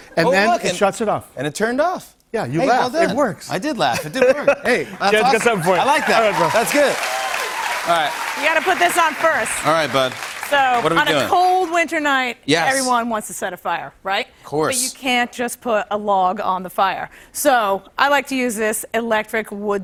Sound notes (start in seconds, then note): 5.2 cheers and applause